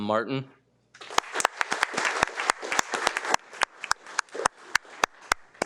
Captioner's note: participants applauds